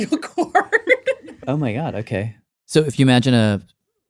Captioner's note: laughs